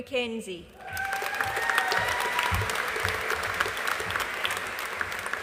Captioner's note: audience applauding